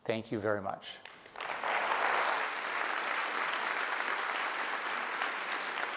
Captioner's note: applause